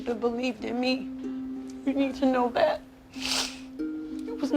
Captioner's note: sniffles